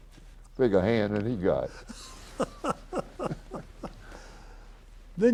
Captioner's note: laughs